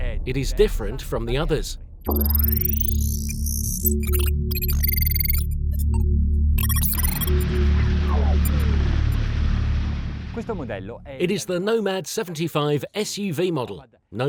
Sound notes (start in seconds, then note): 0.0 dramatic tone; 2.0 electronic beeping; 10.5 speaking in a foreign language